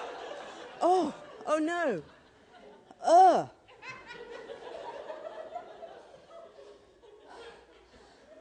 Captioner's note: audience laughter